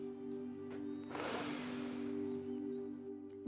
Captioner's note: sighs